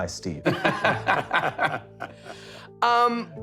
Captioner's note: laughter